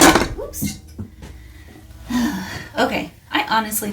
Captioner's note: clonk